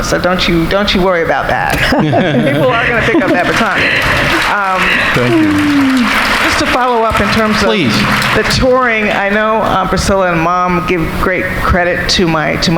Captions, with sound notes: So don't you worry about that. People are gonna pick up that baton. (audience applauding) Just to follow up the touring. I know Aunt Priscilla and mom give great credit